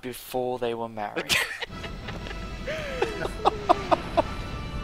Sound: laughter

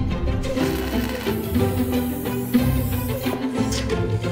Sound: welder buzzing

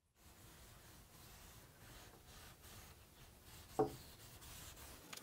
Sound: cloth softly scratching

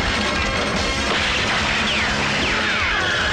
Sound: gunshot; tires squealing

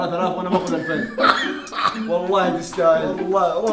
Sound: cackles

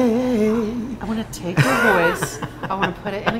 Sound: laughing

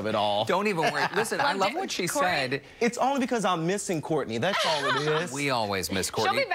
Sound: laughter

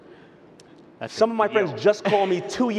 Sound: laughs

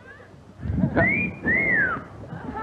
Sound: sexy whistle

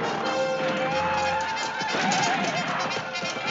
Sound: soldiers whooping

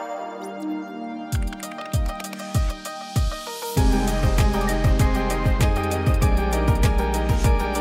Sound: lively music; paper rustling; lively music; keyboard clicking

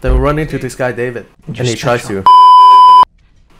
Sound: beep

